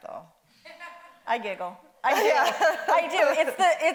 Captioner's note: Dolores laughs